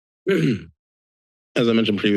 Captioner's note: clears throat